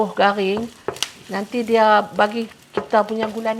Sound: hissing sound

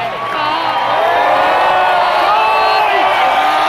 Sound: cheering grows louder

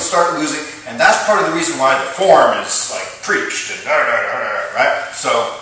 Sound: grunt! 3x

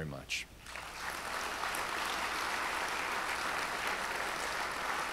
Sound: audience applauds

